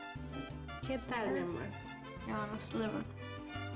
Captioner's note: speaking spanish